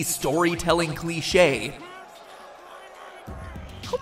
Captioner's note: yelling